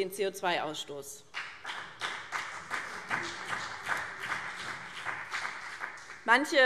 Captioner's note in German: Beifall BÜNDNIS 90/DIE GRÜNEN und vereinzelt CDU